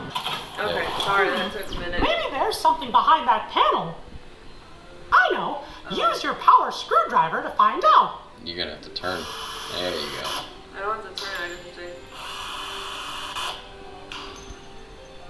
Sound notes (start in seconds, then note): 0.0 air whooshing; 9.2 screwdriver whirring